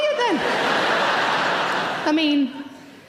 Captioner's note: audience laughing